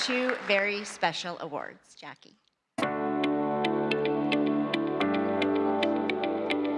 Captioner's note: applause